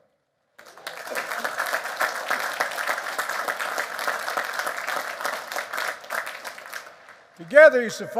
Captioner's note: applause